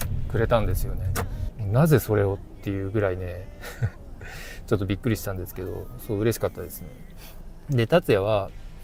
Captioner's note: laughs